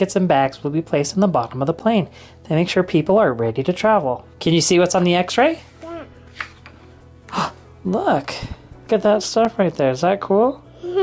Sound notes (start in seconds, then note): 7.4 gasps; 10.8 giggles